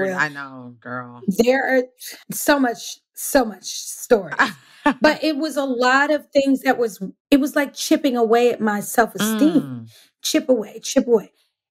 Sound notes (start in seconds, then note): 4.4 laughs